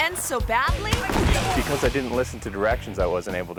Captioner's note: thuds